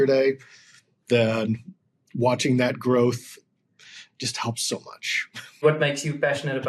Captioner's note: chuckles